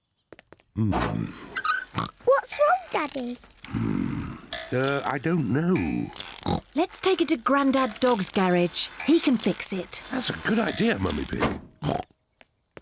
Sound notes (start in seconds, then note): 0.8 oinks; 5.7 oinks; 11.8 oinks